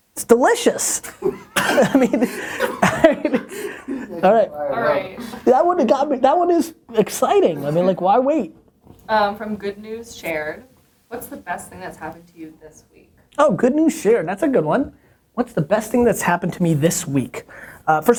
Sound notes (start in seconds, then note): 1.1 laughter; 5.4 voiceover